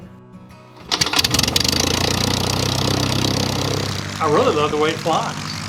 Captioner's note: propeller spinning